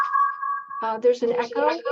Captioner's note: echo